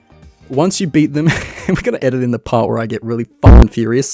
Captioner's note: laughing